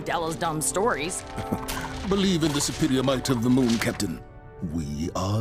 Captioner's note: chuckle